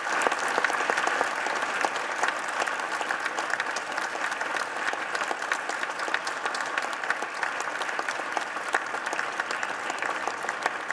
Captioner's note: applause